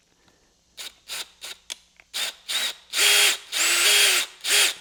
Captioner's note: drilling